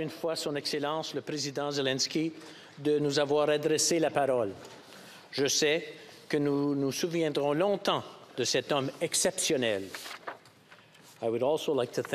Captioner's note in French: voix de l'interprète